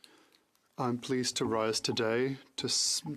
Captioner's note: speaking French